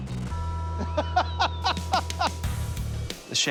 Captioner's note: laughter